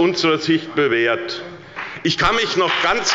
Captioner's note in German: Beifall bei der SPD und der FDP